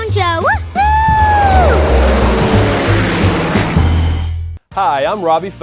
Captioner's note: airplane engine roaring